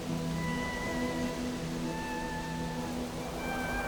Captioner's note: wind whistling